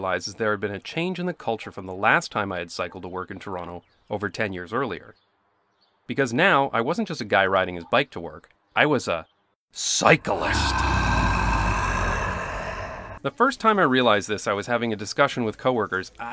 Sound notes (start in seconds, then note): 9.9 scary roar